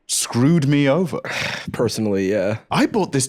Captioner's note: sighs